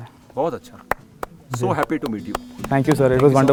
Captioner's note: sound of clapping